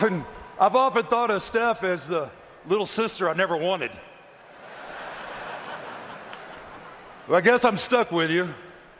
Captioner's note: laughter